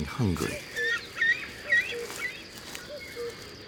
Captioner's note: chicks cawing